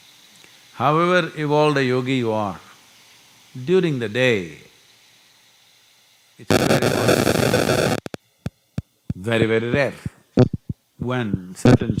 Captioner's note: audio disturbance